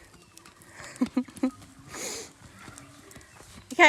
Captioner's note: chuckles